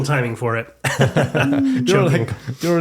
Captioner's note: laughing